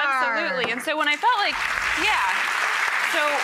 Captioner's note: audience clapping